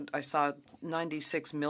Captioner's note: speaking French